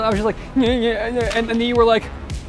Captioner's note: mouth rumbling